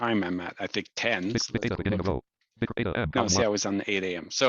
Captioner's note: screen reader audio output